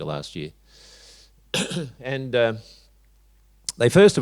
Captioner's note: coughs